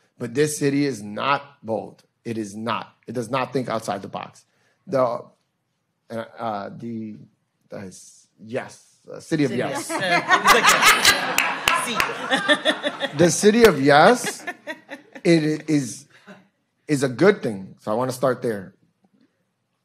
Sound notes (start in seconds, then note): 9.7 everyone laughing